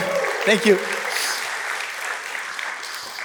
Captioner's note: cheering; applause; laughs